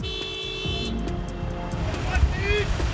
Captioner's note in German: Hupen